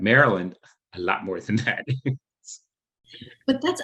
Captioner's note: chuckles